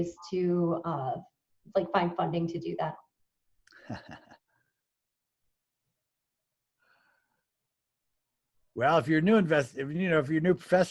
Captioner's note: laughs